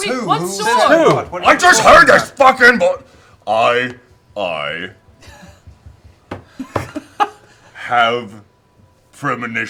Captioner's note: loud and angry; calmer, hesitating